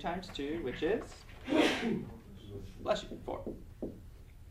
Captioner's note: sneezing